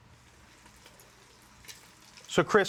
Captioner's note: pan sizzling softly